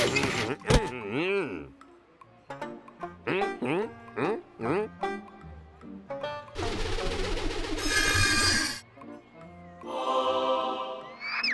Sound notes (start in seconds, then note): 6.3 pumpkin whooshing; 9.8 choir sings